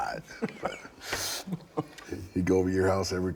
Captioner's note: Bron laughing